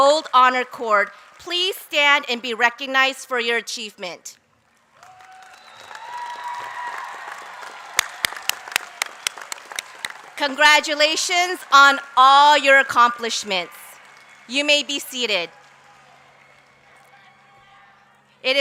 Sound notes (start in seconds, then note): 4.6 applause; 4.9 cheers